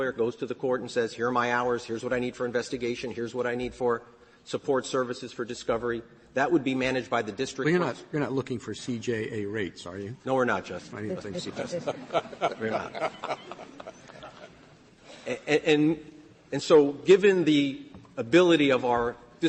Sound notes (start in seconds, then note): 11.1 laughter